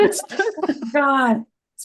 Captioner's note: laughter